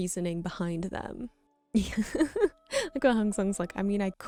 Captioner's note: laughing